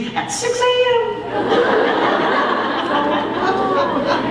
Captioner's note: laughter